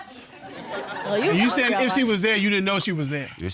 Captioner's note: audience laughing